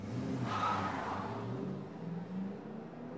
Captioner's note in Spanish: neumáticos chirriando